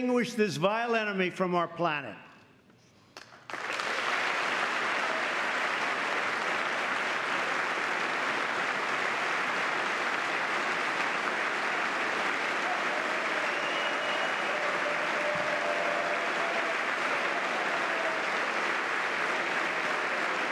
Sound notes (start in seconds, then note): 6.8 applause